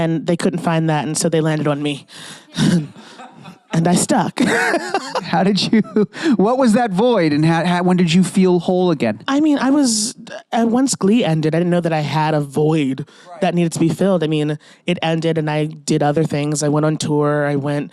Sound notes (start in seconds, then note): 2.1 sighs; 4.4 laughs